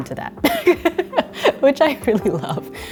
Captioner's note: laughing